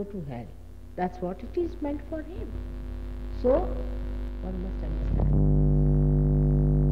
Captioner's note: noise in mp3